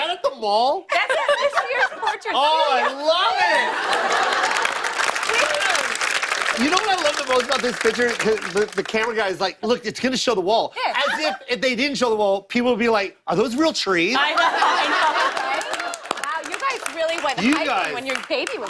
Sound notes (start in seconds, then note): 3.5 applause; 14.2 laughter and applause